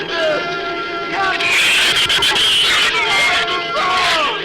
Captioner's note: shrews screech